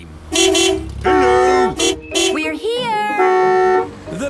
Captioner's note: beeping